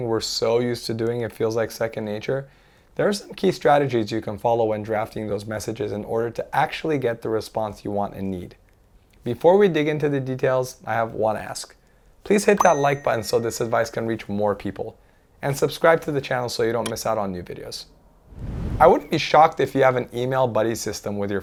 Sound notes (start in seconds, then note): 12.4 bell chimes